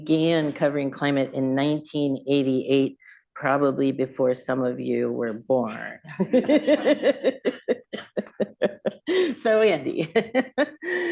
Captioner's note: laughter; laughs